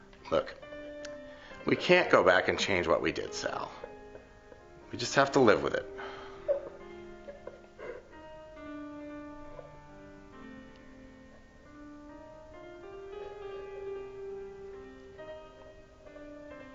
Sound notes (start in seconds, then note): 7.2 Sally crying; 10.8 dark piano music